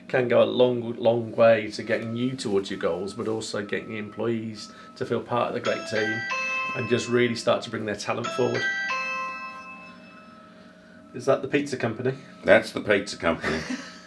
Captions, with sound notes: can go a long way to getting you towards your goals, but also getting your employees to feel part of the great team (phone ringing) and just really start to bring their talent forward. (phone ringing) Is that the pizza company? - That's the pizza company.